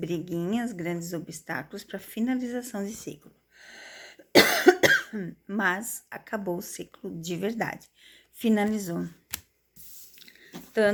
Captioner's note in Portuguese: tosse